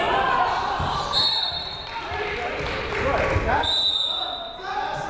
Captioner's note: whistle, buzzer